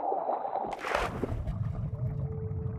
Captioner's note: slpash